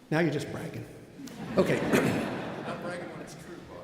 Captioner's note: audience laughing